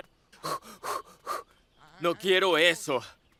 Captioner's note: imita jadeo